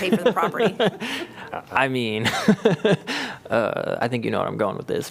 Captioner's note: laughter